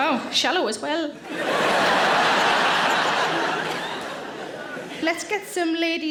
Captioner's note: audience laughing